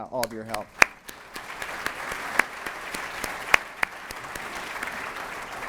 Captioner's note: applause